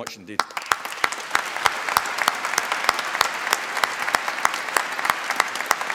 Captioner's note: applause